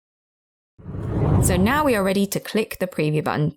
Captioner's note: video effect whooshes